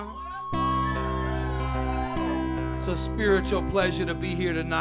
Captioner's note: audience cheering